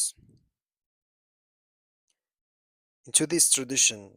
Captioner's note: pause